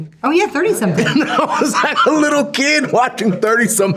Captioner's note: laughing